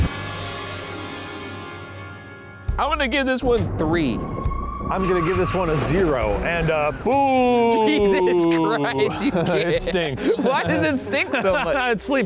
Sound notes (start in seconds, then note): 0.2 soft creepy music; 7.5 laughing